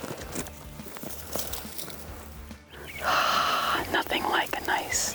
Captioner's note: plants rustling